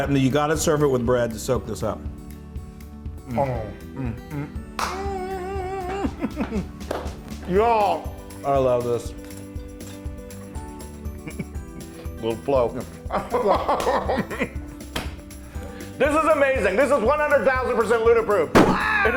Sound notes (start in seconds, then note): 4.7 applause; 13.1 laugh; 13.4 applause